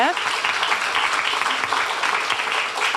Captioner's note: applause